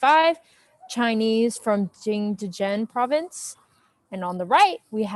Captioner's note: speaks foreign language